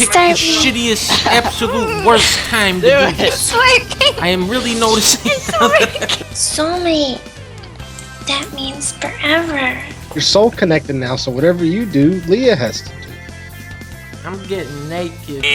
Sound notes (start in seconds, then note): 5.2 laughter